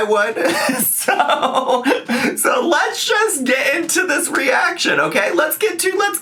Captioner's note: laughing